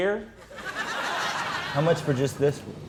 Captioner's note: audience laughing